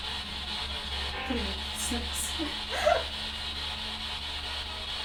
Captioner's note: laughs